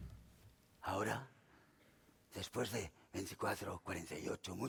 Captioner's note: speaking spanish